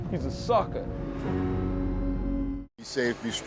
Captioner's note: siren wailing